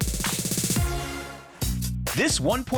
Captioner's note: air whooshing